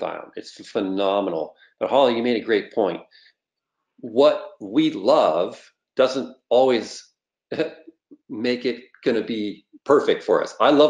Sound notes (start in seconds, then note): 7.5 laughs